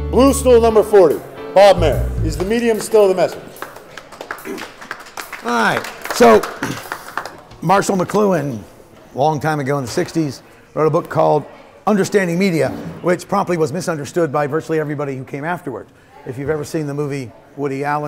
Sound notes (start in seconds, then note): 4.4 audience clapping